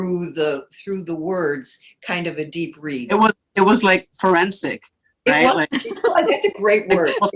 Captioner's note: laughter